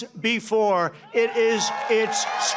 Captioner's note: applause